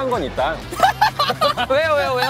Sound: laughing

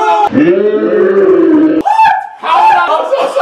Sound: slow motion yelling

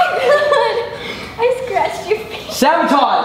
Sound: laughs

